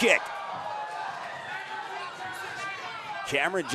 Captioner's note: audience cheering